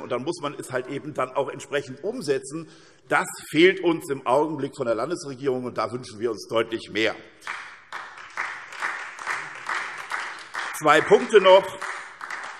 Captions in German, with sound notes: Dann muss man es halt auch entsprechend umsetzen. Das fehlt jedoch im Augenblick. Insofern wünschen wir uns da deutlich mehr Engagement der Landesregierung. [Beifall SPD] Zwei Punkte noch.